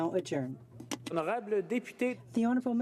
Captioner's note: speaking in french